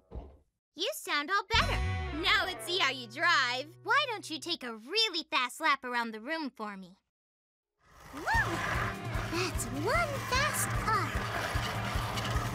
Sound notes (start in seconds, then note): 0.0 mechanical heartbeat; 7.9 engine revs